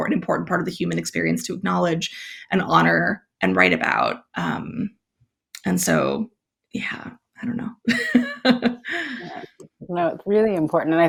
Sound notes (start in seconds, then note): 7.9 laughs